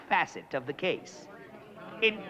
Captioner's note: all murmuring